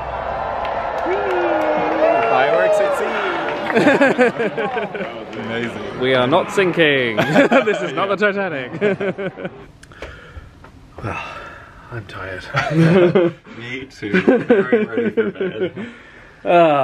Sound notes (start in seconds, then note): 0.1 guests cheering; 3.4 laughs; 7.4 they laugh; 11.0 sighs